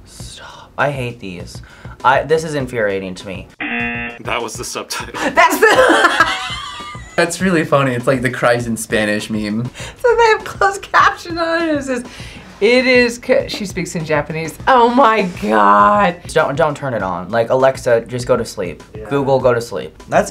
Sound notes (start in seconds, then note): 3.6 buzzer rings; 5.3 laughs